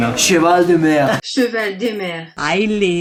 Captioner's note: audio in French